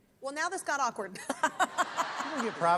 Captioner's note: laughs